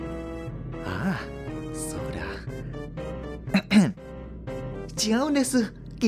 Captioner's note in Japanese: 咳払い